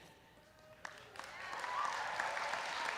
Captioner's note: applause